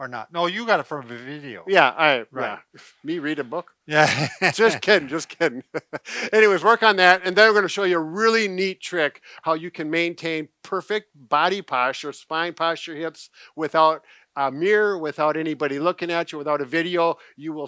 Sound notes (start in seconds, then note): 3.9 laughs